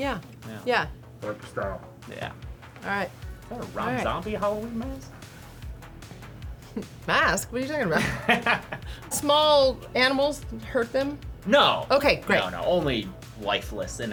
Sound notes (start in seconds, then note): 7.9 laughs